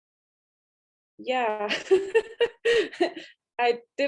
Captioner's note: laugh